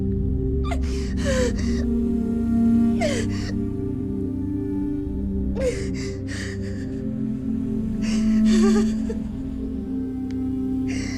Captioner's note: Marlam Crying